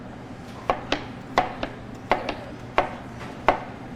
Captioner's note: object thudding